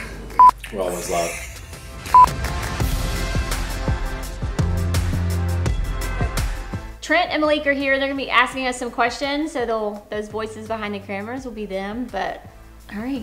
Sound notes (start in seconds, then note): 0.2 laughing; 2.1 beeping